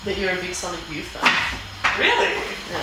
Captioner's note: object thuds